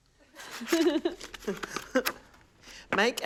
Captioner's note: laughs